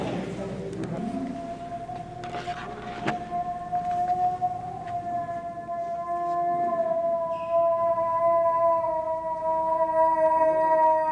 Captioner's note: moose call